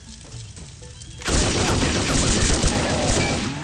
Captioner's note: light playful music; guns blasting; monster groaning